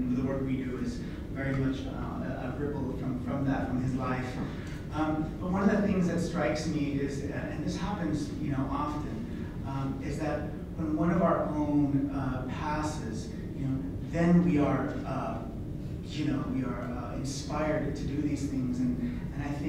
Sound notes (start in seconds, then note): none